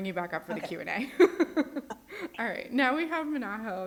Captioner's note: presenter laughs